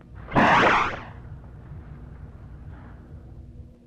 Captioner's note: door whooshes